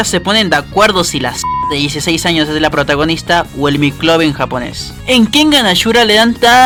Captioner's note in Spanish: pitido